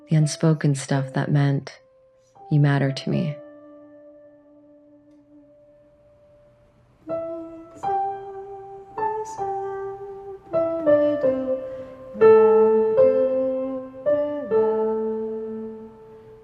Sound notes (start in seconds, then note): 7.1 humming; 7.2 piano music